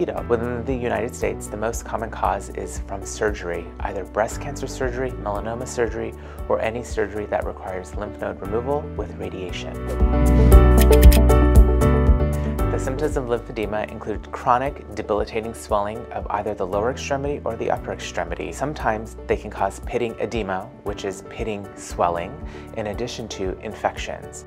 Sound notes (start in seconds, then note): 9.9 whooshing; 10.7 typewriter clicking